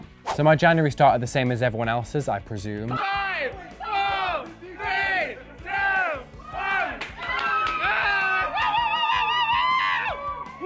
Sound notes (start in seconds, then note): 3.0 crowd; 7.2 crowd cheering